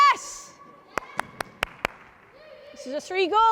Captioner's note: clapping